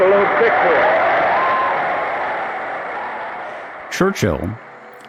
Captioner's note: crowd cheering